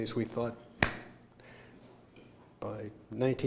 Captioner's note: smack